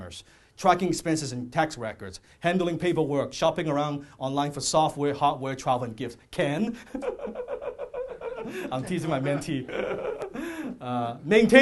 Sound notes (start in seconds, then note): 6.7 laughing